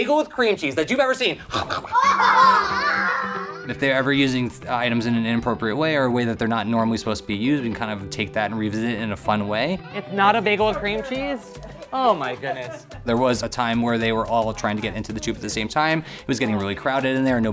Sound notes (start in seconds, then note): 1.4 mimics eating; 1.5 children laughing